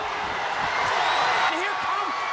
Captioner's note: audience cheering